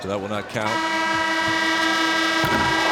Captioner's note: horn blasts